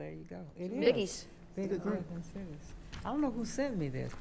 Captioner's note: trails off